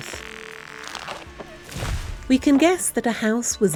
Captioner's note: sound of trees being felled